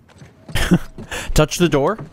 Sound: laughs

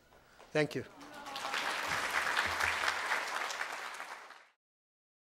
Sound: audience applauding

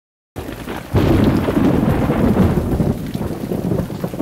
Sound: rain and thunder

